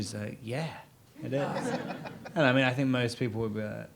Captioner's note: audience laughs